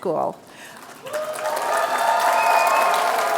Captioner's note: applause